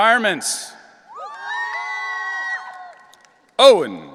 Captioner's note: audience cheering